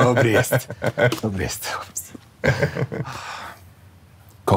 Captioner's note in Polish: śmiech